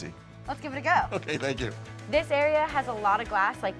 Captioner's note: laughing